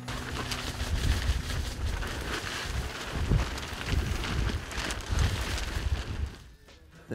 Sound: tent flapping

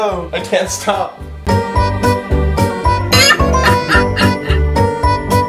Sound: laughing

